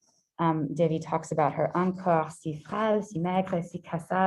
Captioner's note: French